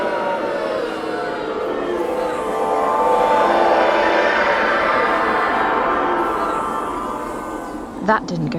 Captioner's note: teleportation sound